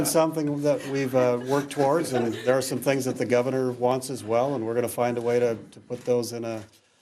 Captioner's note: laughter